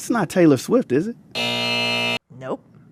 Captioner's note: soundbite of buzzer